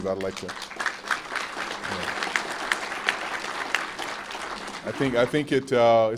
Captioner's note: applause